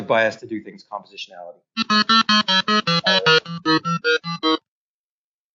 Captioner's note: model beeps in a different tempo